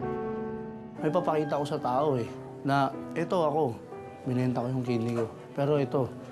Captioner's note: speaks in foreign language